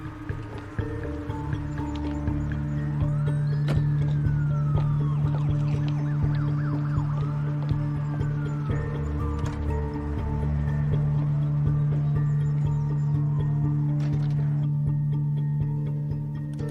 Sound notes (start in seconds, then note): 2.8 distant siren wailing